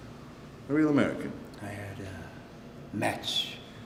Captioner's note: none